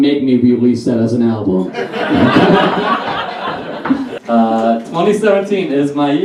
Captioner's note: audience Laughs